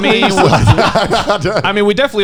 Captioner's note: laughing